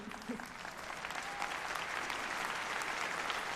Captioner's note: applause